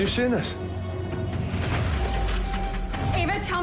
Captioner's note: alarm blaring